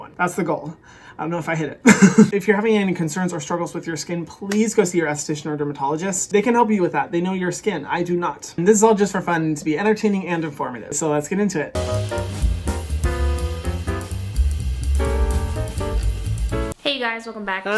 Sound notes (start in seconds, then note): 1.9 laughs; 11.7 upbeat jazz music